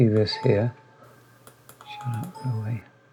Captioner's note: mouse clicking and computer error sounds